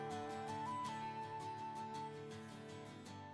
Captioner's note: none